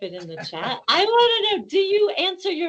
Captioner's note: laughing